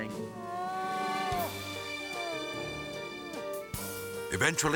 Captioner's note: gentle music; crying